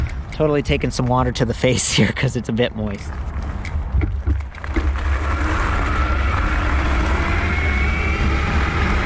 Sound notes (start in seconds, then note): 5.5 wheel pattering